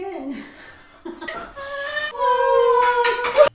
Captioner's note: laughs